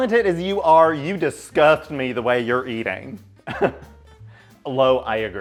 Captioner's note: laughs